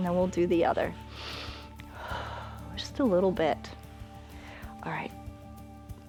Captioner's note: inhales and exhales